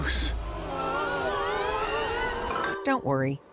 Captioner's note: screams